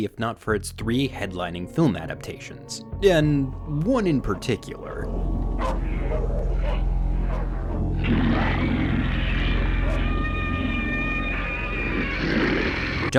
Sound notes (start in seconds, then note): 5.6 dog barking; 7.8 monster growling